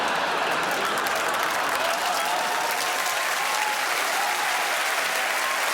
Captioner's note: audience laughing and clapping